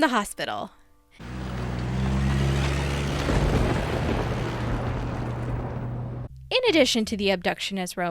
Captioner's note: engine revving, ominous thunder